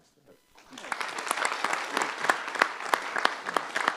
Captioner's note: applause